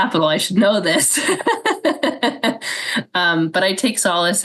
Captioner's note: laughs